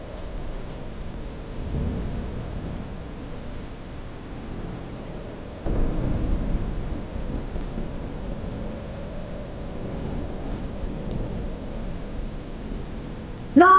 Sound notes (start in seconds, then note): 2.1 thunder rumbling